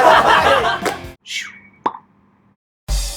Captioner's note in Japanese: 笑い声; 効果音：シュッ ポン